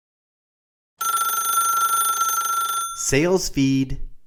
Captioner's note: phone ringing